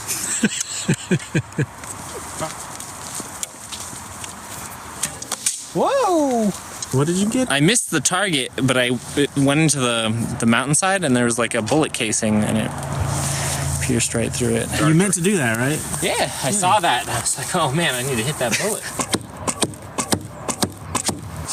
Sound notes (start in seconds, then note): 0.0 laughing; 4.9 bowstring twangs; 18.9 5 arrows thump